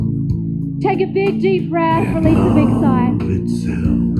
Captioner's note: sighs